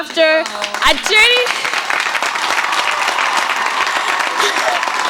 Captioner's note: applauding